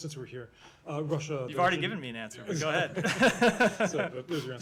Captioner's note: laughter